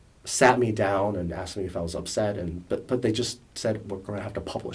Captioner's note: none